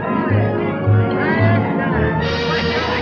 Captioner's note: chattering